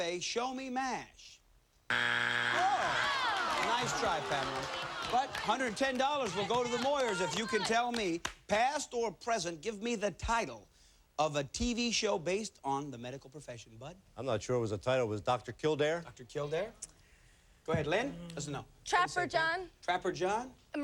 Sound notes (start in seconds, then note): 2.5 audience groans